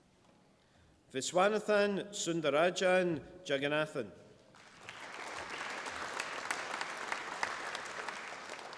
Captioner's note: applause